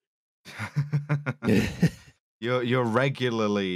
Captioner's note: chuckles